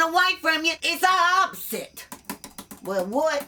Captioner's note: typing